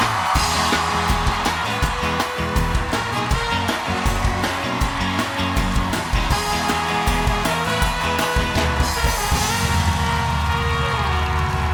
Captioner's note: band playing; cheers and applause